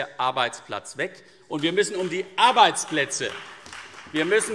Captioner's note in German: Beifall CDU und vereinzelt BÜNDNIS 90/DIE GRÜNEN